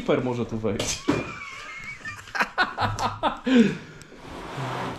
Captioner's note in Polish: śmiech